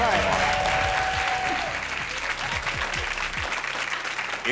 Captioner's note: audience cheering